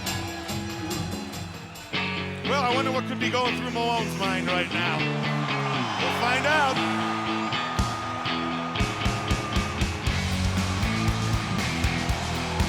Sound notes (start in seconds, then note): 2.3 upbeat music; 7.3 audience cheers